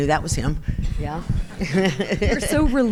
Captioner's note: chuckles